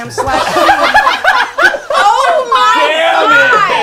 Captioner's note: group laughs